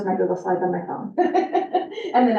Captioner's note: chuckles